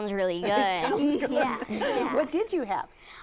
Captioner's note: laughter